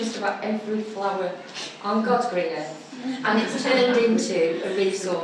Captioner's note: laughter